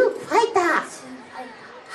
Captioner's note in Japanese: 小声